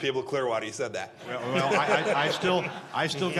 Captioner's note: laughter